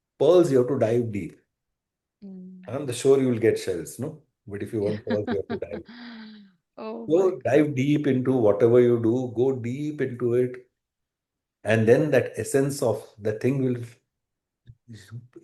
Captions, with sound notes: pearls, you have to dive deep. I'm not sure you will get shells, no? But if you want pearls, you have to [laughter] dive deep. Oh my So dive deep into whatever you do, go deep into it. And then that essence of the thing will